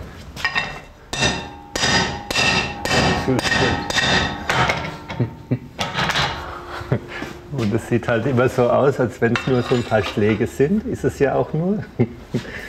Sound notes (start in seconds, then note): 3.5 metal hammering; 6.4 laughs